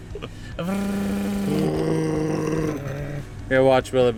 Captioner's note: laughter; both mimic compressor sounds